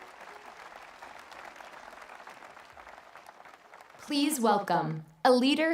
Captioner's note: applause